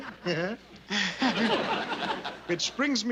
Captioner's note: chuckles